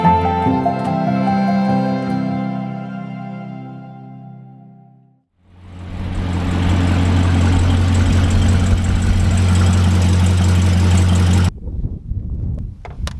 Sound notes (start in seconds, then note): 5.4 car engine roaring